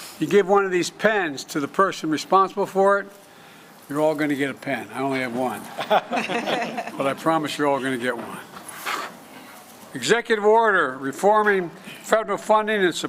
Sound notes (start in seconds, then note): 5.7 laughter